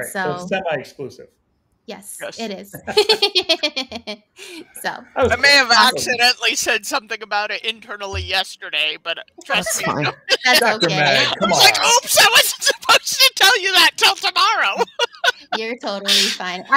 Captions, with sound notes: - All right, so it's semi-exclusive. - Yes it is. (all laughing) - I may have accidentally said something about it internally yesterday, but trust me... (laughs) - That's fine. - That's okay. - Dr. Meg, come on. - I was like oops, I wasn't supposed to tell you that till tomorrow. (laughs) - You're totally fine.